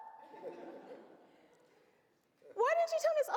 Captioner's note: audience laughs